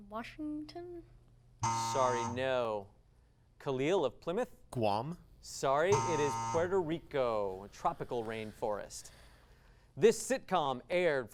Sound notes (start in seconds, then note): 5.9 device sound